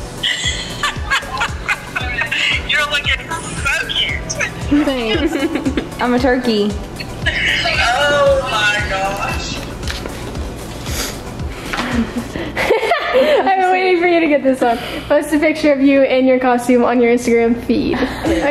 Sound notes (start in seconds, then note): 0.2 laughing; 11.7 laughing